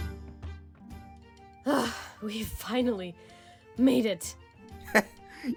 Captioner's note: panting